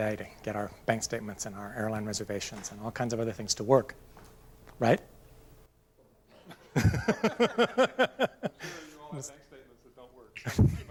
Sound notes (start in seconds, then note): 6.4 laughter